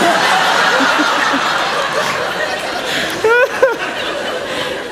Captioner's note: laughter